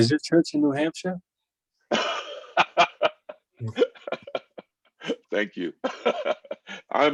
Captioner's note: laugher